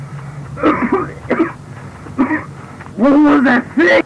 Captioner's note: pants; coughs